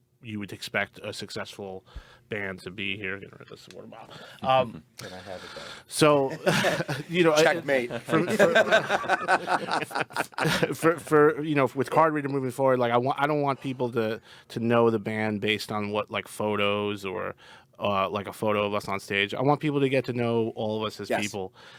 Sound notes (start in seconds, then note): 4.7 group chattering and laughing; 8.5 group laughing